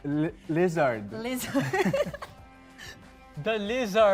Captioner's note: chuckling